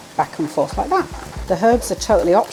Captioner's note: short chopping